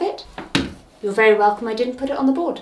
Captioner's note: pointer thuds